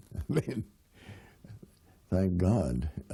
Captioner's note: chuckles